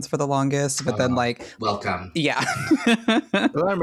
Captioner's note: laughing